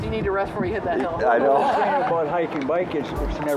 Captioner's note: laughing